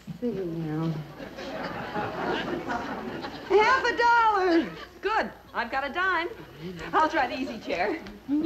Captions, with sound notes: (laughter) - I've got a dime. - I'll try the easy chair.